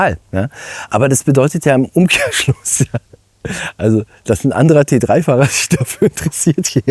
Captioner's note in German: gelächter